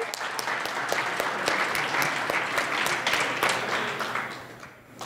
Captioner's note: audience applauds